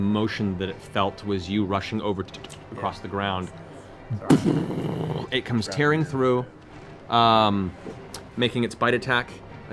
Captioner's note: boom